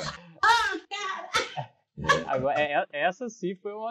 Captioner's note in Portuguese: risos